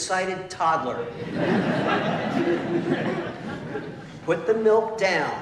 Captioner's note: laughter